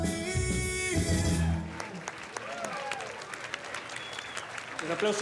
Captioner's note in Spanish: aplausos